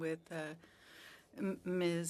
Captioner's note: speaking French